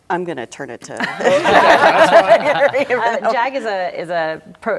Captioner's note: laughter